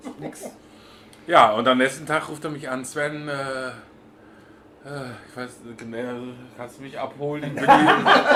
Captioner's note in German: lachen